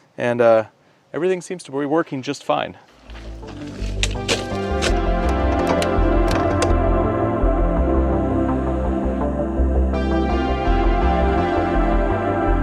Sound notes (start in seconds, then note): 4.7 gear clattering; 7.5 bright music continues